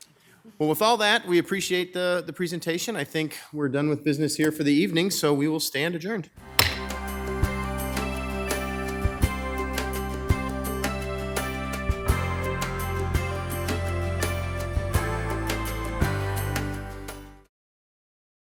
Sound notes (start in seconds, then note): 6.4 gentle bright music; 6.6 gavel thuds